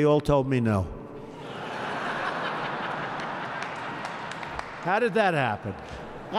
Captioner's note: laughter